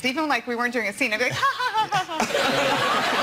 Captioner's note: laughing